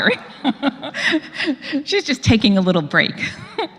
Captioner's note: laugh; laugh